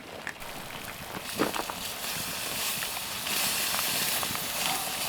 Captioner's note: sizzling